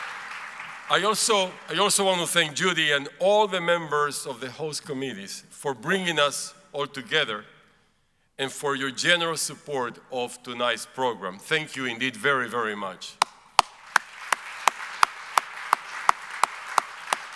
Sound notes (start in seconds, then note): 0.0 audience applauds; 13.5 applauds; 13.5 audience applauds